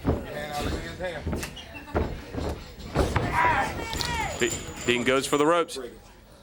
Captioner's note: crowd chatter